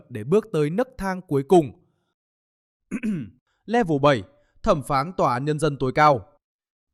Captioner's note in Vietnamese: hắng giọng